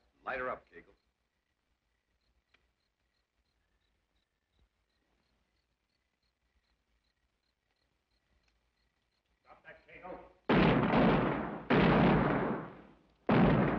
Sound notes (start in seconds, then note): 2.3 crickets chirrup; 10.4 guns bang